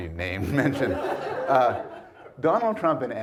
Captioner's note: audience laughs